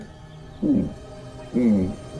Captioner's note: mumbles affirmative